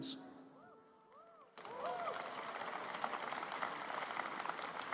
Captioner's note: applause